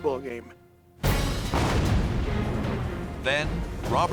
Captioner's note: explosion